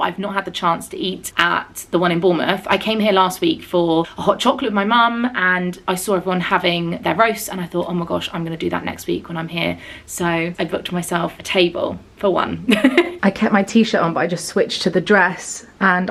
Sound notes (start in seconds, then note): 12.6 chuckles